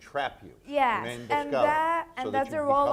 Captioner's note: speaking in foreign language